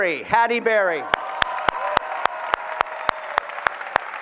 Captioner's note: applause